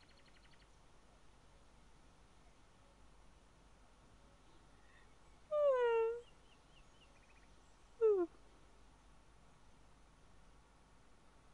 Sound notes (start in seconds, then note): 5.2 yawning